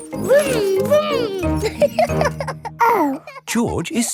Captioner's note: laughs and snorts; laughing